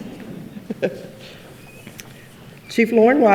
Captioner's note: laughs